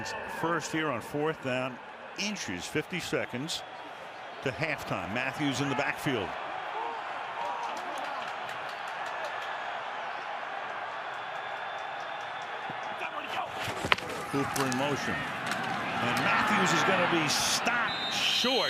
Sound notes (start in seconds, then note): 8.1 cheers